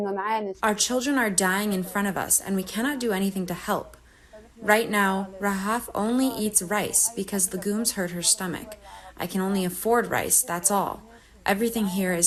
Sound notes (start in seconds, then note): 1.3 through translator